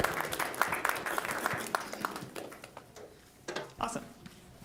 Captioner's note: applause